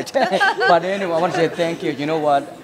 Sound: laughter

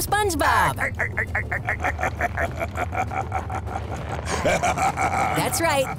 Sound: laughing

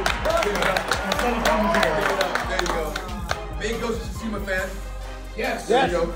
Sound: applause

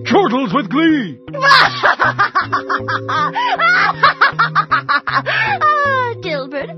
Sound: evil laughter

